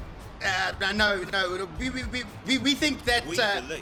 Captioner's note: stutters